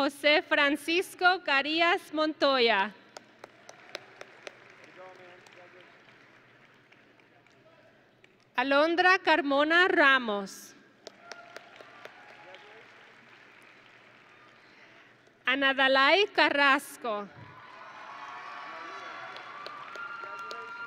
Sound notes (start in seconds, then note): 3.2 audience and graduates applauding; 11.1 audience and graduates cheering; 17.4 audience and graduates cheering